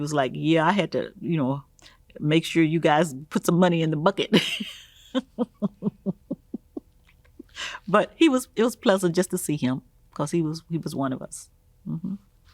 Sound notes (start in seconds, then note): 4.4 laughing